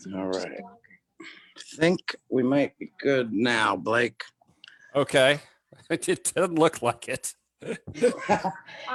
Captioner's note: laughs